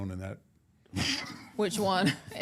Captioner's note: chuckles